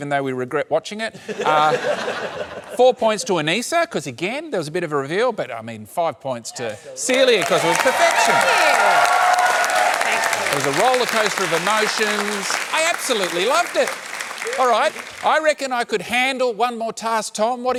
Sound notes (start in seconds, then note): 9.5 cheering, applause